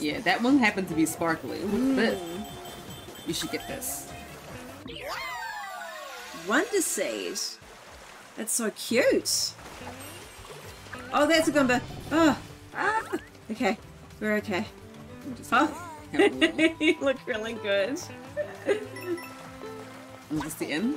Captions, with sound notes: Yeah, that one happened to be sparkly. What's this? You should get this. Wonder seed. That's so cute. Oh, that's a Goomba. Ugh, ahhh! Okay, we're okay. Just having a little crawl. [laughs] You look really good. Is this the end?